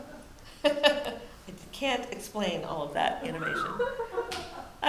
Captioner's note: laughs